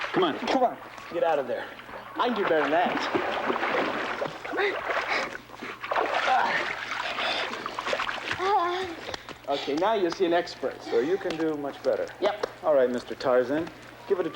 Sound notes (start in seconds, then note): 5.3 girl panting; 6.6 water splashing